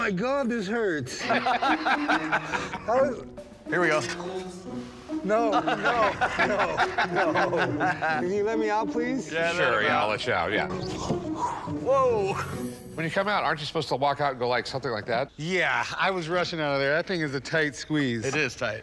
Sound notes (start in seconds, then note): 1.1 laughter; 5.4 laughter